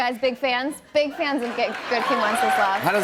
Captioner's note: cheers and applause